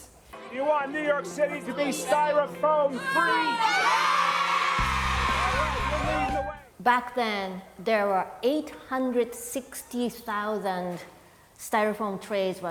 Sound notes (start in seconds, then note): 3.0 cheering